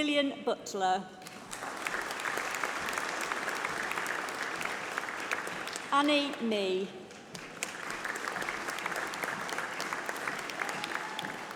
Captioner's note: applause